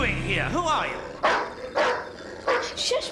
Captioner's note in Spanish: perro ladrando